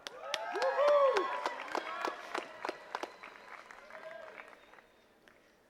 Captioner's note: attendees cheering and clapping